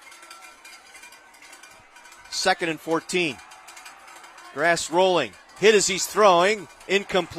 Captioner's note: applause